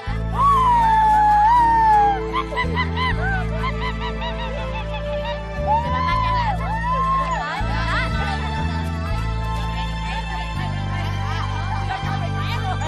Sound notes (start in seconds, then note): 3.2 mimicking monkey's sound